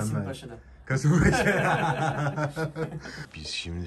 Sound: laughs

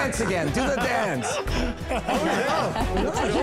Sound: laughing

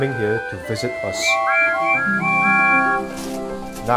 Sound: the engines whistle

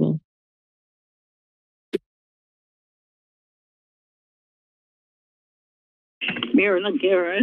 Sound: silence

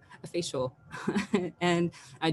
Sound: chuckles

